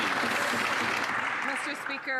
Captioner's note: some Applause